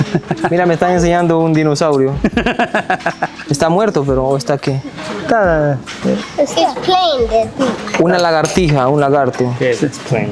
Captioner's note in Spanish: risas